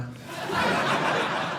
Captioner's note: audience laughing